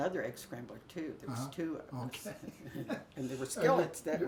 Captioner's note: laughs